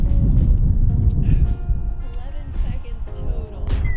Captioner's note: laughs